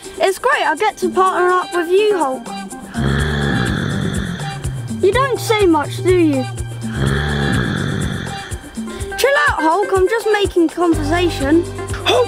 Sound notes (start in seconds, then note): 2.6 growling; 6.7 growling